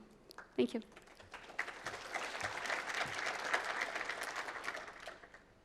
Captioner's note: applause